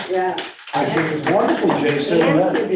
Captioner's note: group applauding